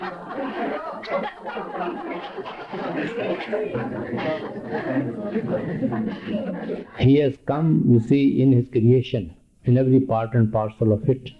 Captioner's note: loud and prolonged laughter from audience